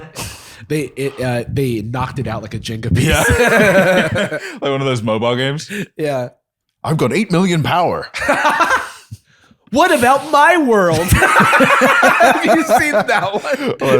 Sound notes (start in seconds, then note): 2.9 laughs; 8.1 laughter; 10.9 laughter